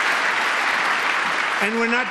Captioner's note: applause